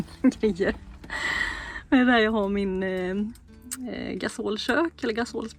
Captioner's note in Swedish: drar efter andan